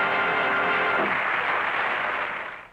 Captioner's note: theme music & applause; applause